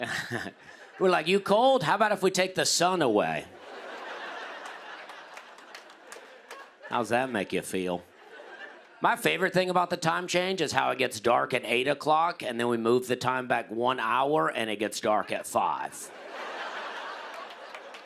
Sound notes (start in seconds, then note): 3.5 laughter; 16.0 laughter